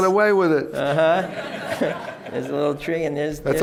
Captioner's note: laughter